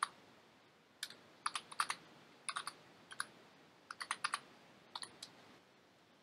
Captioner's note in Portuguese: typing